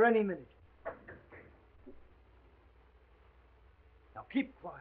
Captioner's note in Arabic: طرق على الباب